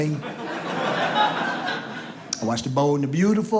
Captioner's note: audience laughs